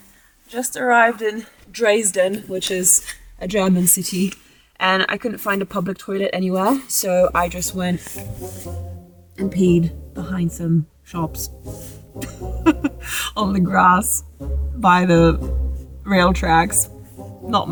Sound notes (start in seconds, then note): 8.2 playful music; 12.2 speaker laughs